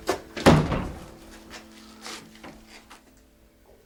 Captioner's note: door slams